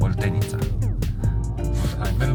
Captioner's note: laughs